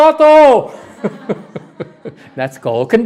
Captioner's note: laughter